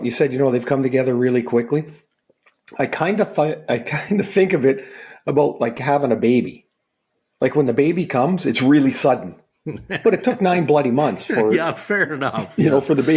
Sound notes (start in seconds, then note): 9.6 laughing